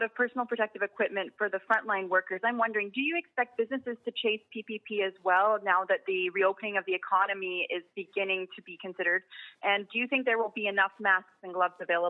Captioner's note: speaking French